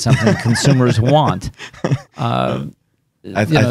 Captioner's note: laughing